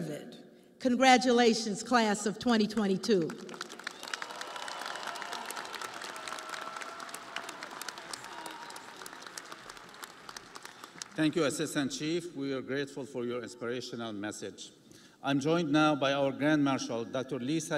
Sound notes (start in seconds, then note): 9.1 audience applauding; 9.1 crowd cheering